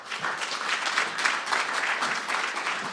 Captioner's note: applause